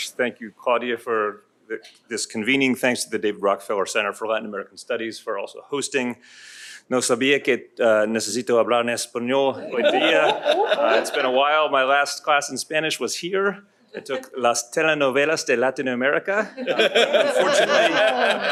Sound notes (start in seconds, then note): 6.8 non-english speech